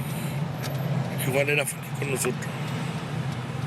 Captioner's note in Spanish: none